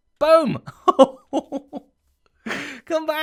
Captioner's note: chuckles